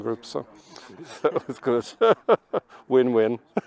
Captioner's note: laughs